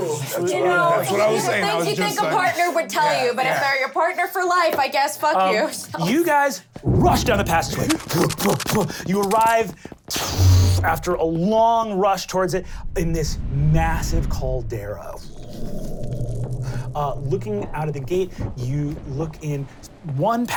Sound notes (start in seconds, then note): 0.3 all yelling; 8.8 heavy breathing; 12.6 powerful exhale; 15.7 fire crackling